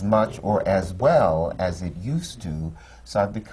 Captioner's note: none